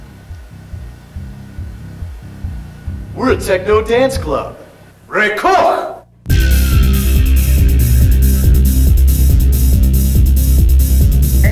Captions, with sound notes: We're a techno dance club. [in Klingon] Play music!